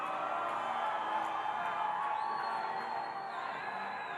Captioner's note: audience cheering